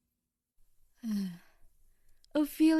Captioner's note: sighs